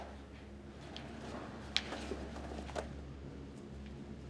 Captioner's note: footsteps